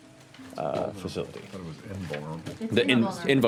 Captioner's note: mutters